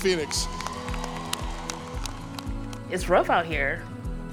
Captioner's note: audience applauding